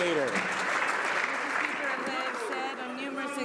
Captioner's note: some Applause